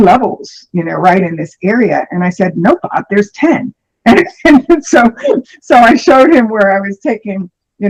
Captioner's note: laughter